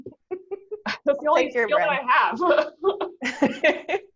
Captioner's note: laughs